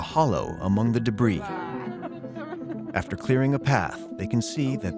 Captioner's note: laughing